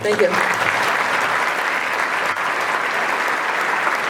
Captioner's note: applause